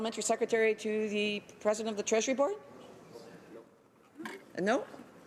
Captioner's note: speaking French